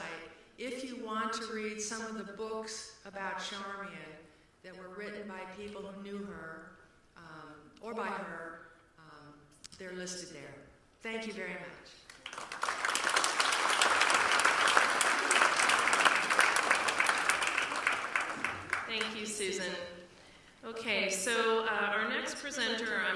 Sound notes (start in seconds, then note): 12.0 applause